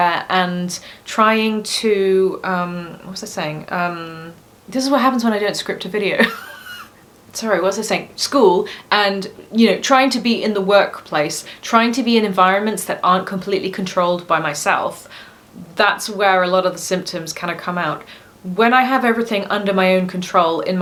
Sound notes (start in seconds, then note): 6.2 laughs